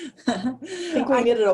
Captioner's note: laughter